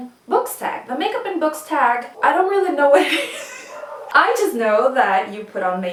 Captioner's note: wheezes